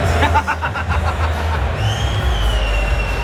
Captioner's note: man laughs